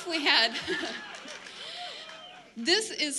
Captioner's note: laughs; laughter